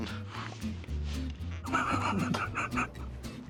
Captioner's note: laughs